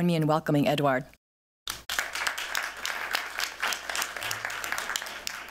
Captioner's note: applause